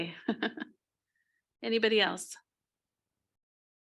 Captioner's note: laughs